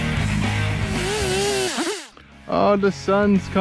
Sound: high-pitched, sped up chainsaw noises

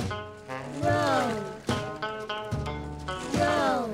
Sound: wind starts to blow again

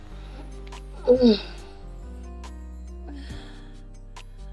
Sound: Fiona moaning

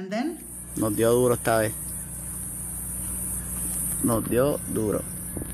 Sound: speaking foreign language

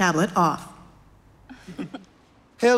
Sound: laughter

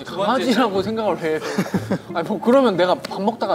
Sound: laughing

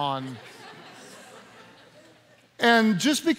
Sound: laughing

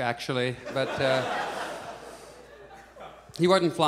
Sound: audience laughs

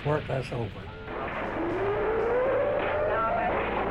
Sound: siren blaring

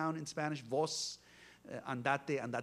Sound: Spanish spoken

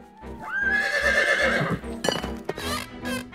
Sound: horse whinnies

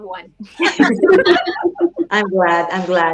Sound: laughing

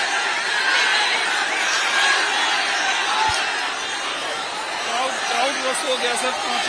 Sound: applause

